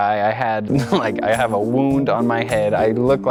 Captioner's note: laughs